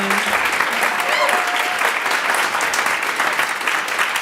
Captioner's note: audience applauding